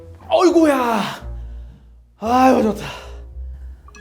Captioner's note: letting out a sigh?